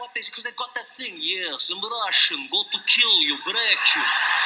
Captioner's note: Russian accent; laughter